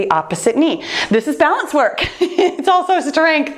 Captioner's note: laughs